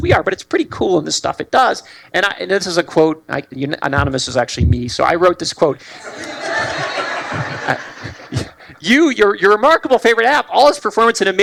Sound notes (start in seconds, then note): 5.9 laughter